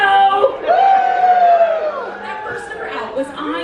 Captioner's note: crowd cheers